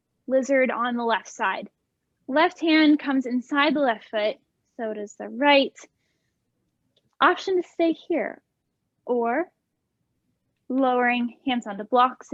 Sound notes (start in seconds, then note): none